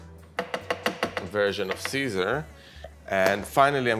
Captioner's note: spatula clanking